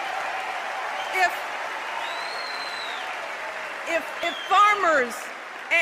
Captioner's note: applause